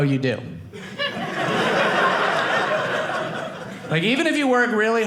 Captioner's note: audience laughing